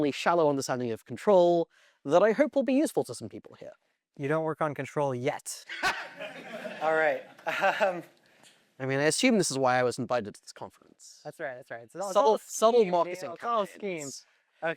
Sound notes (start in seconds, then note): 5.7 laughs; 5.8 audience Laughter; 8.3 laughs